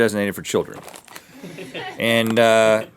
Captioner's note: crew laughs